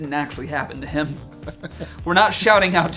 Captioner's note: laughing